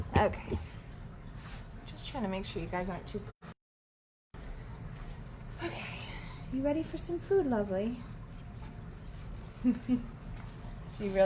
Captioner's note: chuckles